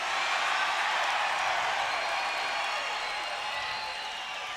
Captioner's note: crowd cheers